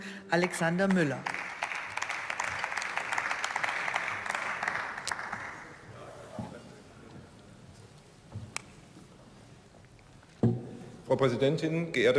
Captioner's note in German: Beifall